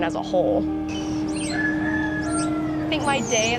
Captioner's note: rooster crows